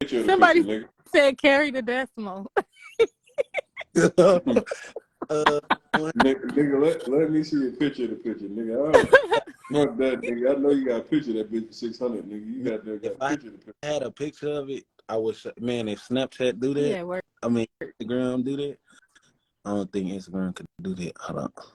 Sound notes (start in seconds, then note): 2.6 laughter